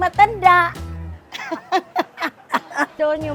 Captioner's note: laughs